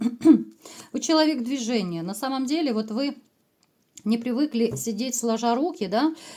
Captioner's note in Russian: откашливается